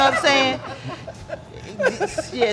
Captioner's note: laughing